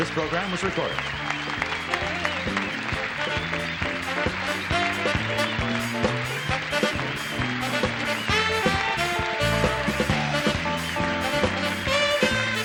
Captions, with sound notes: This program was recorded. -(applause) -(theme music)